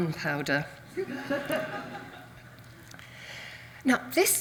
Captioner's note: audience laughs